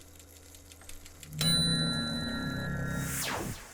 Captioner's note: ding